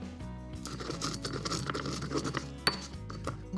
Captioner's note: grinding